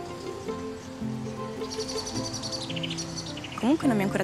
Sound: birds chirping

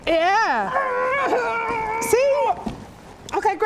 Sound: hrrrrghrrgrgrgh

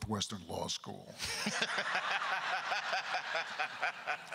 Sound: crowd laughter; crowd continues laughing; laughs

